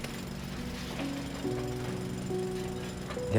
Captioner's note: jack hammer rattling